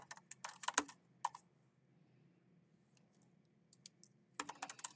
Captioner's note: keyboard clacking